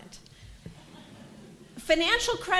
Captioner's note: laughter